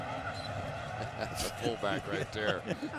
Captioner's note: laughter